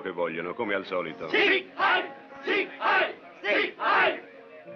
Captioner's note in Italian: lingua tedesca